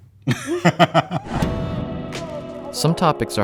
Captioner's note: both laughing